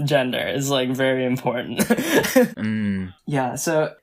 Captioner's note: laughs